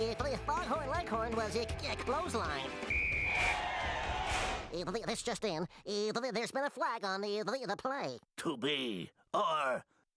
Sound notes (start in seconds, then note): 2.8 whistle blowing; 2.9 audience cheering